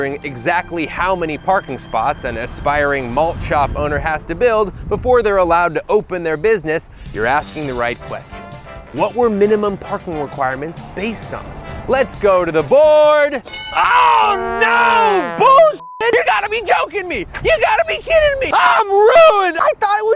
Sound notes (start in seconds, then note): 13.4 bell dings